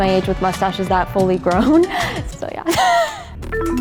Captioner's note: chuckles; laughs